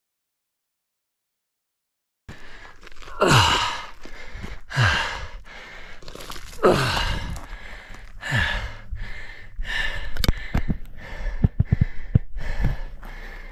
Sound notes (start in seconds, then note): 3.0 grunting